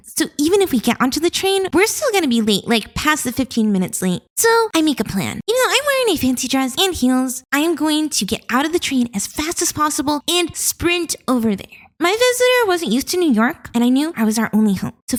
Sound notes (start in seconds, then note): none